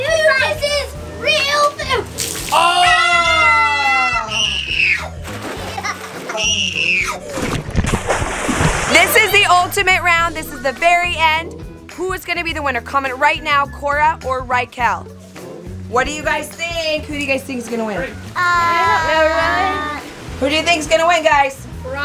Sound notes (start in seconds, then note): 2.5 screaming; 5.1 splash